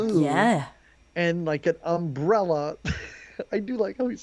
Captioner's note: laughs